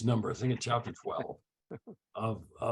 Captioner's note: chuckles